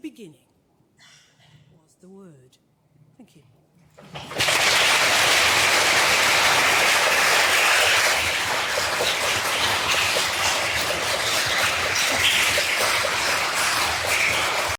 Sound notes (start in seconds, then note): 9.5 applause